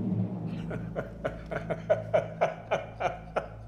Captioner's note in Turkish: Gülme sesleri